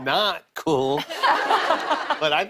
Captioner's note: laughter